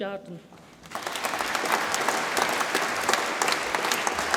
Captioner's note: audience applauds